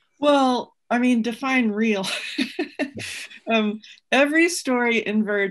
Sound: laughs

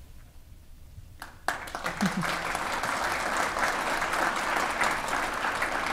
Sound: audience applauding

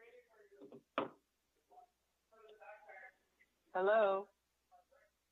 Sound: background chatter

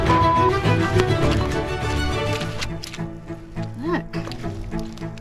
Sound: squelching noises

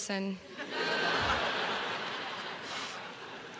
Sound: crowd laughs

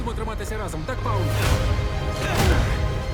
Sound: grunting

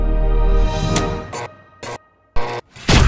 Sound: bursts Of Static; sci-Fi Explosion

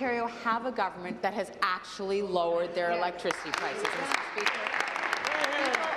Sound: some Applause

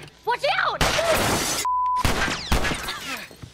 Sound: gunshot, glass shatters; Ellie pants

